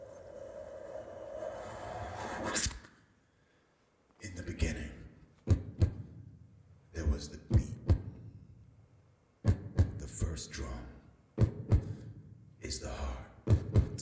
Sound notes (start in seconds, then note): 5.4 imitating heartbeat; 13.4 man beatboxing